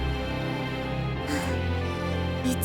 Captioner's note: bemused sigh